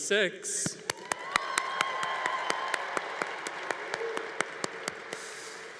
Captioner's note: congregation applauding